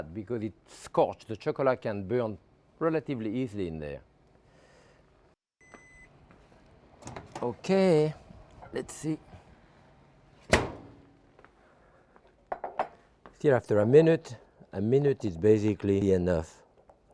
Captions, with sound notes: because it scorch, the chocolate can burn relatively easily in there. (oven beeping) Okay, let's see. (door thudding) Here after a minute. A minute is basically enough.